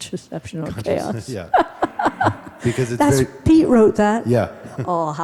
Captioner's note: laughs heartily